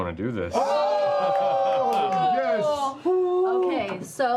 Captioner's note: cheering